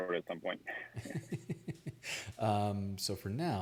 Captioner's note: laughs